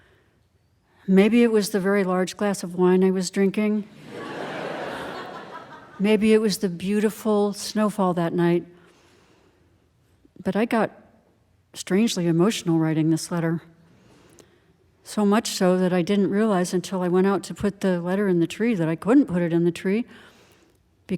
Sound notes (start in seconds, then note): 3.9 audience laughing